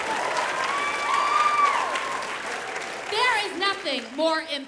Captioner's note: audience applause